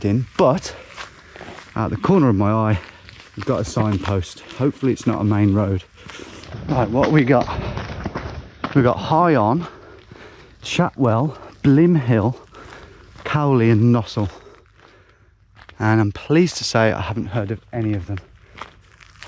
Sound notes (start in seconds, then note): none